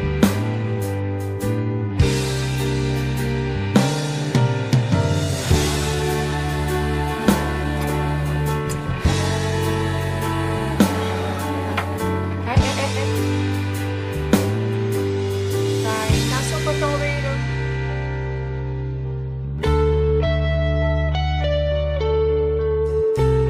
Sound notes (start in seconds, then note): 7.1 kiss